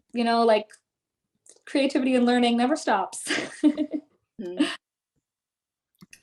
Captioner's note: chuckles